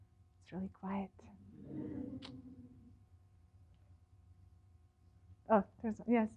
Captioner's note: laughter